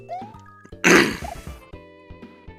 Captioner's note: clears throat